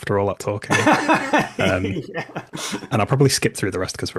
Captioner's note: laughs